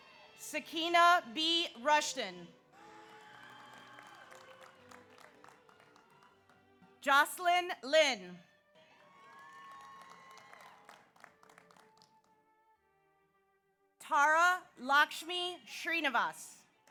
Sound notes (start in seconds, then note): 2.7 audience applauds; 9.0 audience applauds